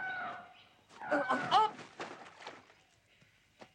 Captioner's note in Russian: Паганель вскрикивает